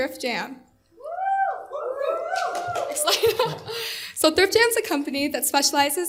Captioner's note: applause